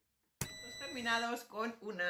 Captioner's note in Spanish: sonido: piiiiii